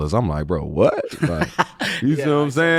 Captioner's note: laughing